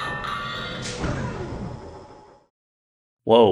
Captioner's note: ominous noise